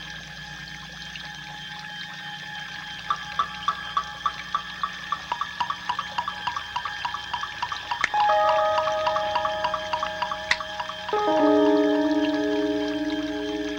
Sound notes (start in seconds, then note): 10.0 finger snaps